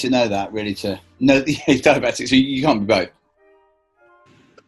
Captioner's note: laughs